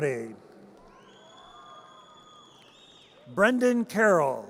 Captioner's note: audience cheers